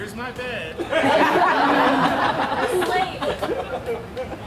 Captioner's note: audience laughs